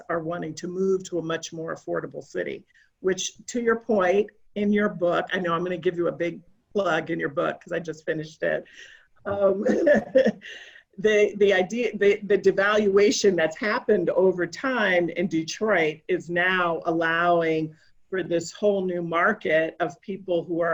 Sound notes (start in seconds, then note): 9.3 laughing